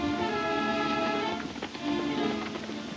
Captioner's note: hooves thundering